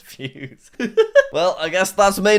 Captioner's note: laughs